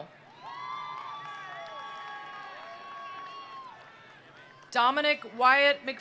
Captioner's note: attendees cheering; attendees applauding